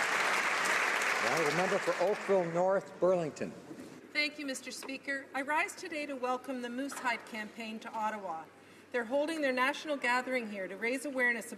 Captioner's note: applause